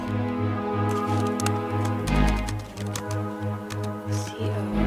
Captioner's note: brooding music continues; keyboard clacks